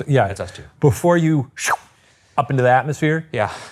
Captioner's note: whistles